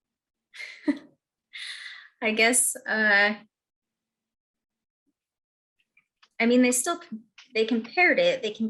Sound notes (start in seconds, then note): 0.6 chuckles